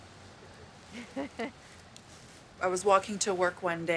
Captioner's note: woman laughs